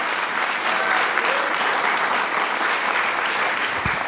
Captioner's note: applause